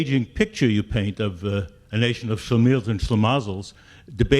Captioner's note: speaking in foreign language